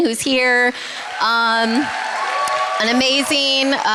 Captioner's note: cheering